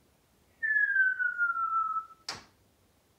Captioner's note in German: whistling